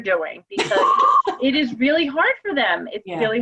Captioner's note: laugh